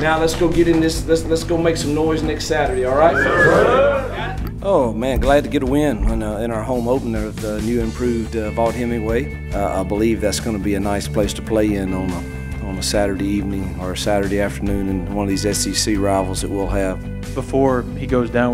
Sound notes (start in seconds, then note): 2.8 whistling